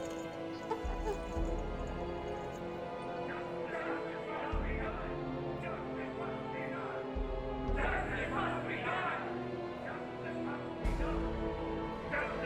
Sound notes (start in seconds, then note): 0.2 dramatic music continues; 7.0 crowd